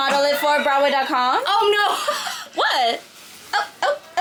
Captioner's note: laughs